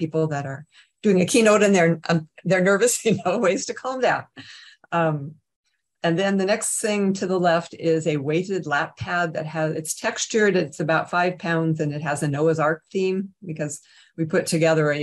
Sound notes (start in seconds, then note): 3.1 chuckles